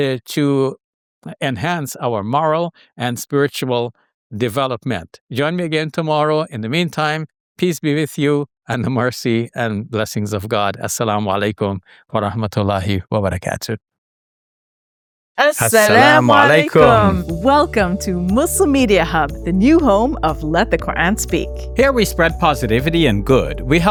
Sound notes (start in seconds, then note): 11.5 man speaking in foreign language; 15.6 people speaking in foreign language